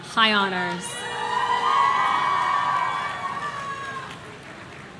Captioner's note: audience cheering